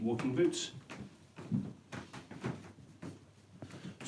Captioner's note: floor boards creak